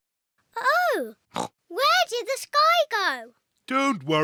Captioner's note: oinks